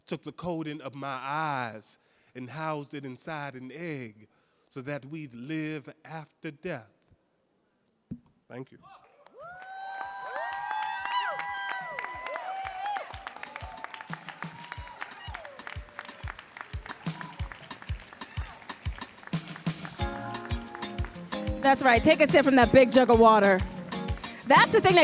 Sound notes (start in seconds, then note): 11.3 audience cheering and applauding; 14.3 mellow music